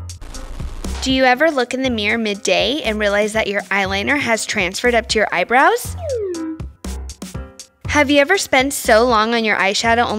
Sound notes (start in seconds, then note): 5.9 slide whistle